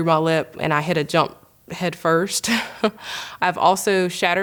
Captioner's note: laughing